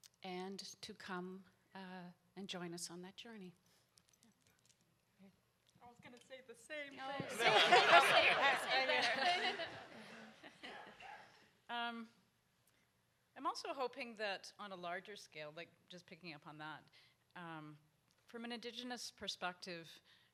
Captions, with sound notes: And to come and join us on that journey. - I was gonna say the same-- (audience laughs) I'm also hoping that on a larger scale, just picking up on that, from an indigenous perspective,